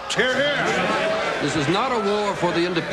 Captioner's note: people cheering